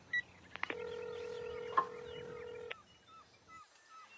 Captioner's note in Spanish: Sonido de llamada